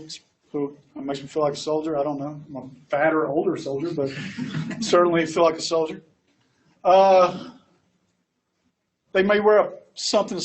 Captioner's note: laughs